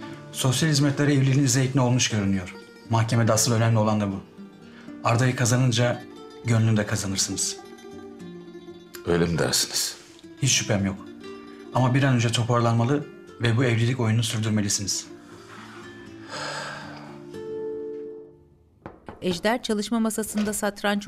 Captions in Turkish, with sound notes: Sosyal Hizmetler evliliğinize ikna olmuş görünüyor. Mahkemede asıl önemli olan da bu. Arda'yı kazanınca gönlünü de kazanırsınız. Öyle mi dersiniz? Hiç şüphem yok. Ama bir an önce toparlanmalı... ...ve bu evlilik oyununu sürdürmelisiniz. (Nefes sesi) (Kapı tıklanma sesi) (Kapı açılma sesi)